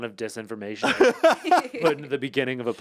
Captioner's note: laugh